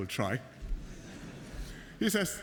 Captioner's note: laughter